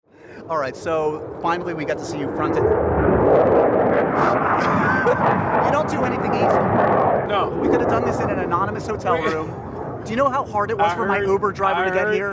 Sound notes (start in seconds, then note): 2.6 plane whirring